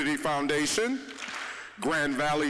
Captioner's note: audience clapping once